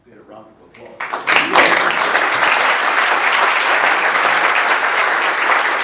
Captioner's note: applause